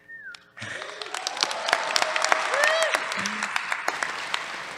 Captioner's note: applause